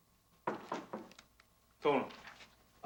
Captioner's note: door knocking